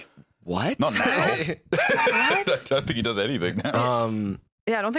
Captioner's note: laughs